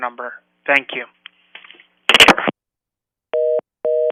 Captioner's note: sound of telephone hanging up; rapid busy signal indicating call has been disconnected